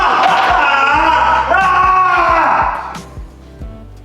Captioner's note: screaming